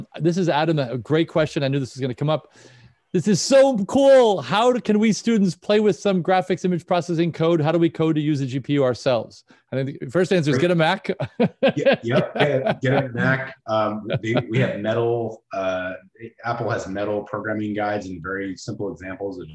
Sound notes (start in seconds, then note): 10.9 laughs